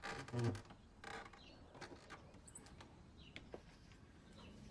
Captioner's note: door creaking